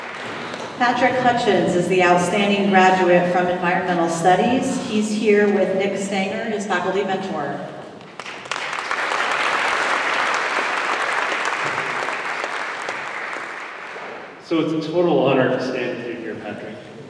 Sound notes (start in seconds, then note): 8.0 applause